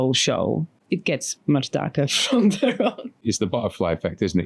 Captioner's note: laughs